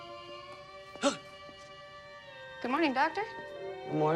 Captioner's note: gasps